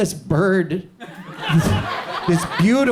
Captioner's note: audience chuckles